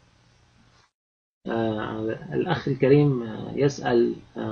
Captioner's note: speaking Arabic